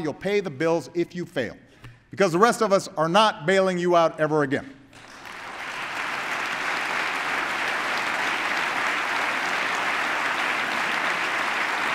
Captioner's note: applause